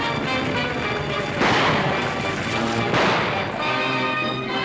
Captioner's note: gunshots